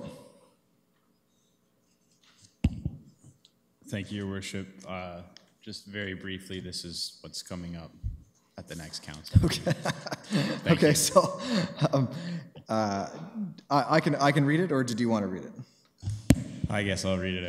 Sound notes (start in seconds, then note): 11.0 laughs